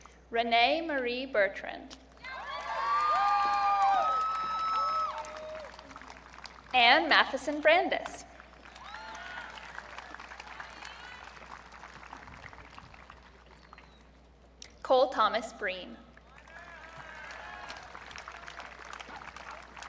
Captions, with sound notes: Renee Marie Bertrand. (audience cheering) Anne Matheson Brandes. (audience cheering) Cole Thomas Breen. (audience cheering)